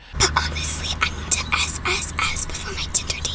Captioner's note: whispering